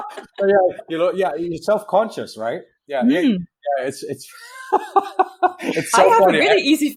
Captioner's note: laughs